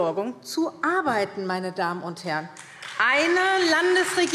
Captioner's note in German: Beifall SPD